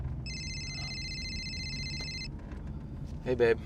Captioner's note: phone ringing